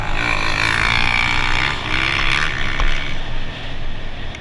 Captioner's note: engine revving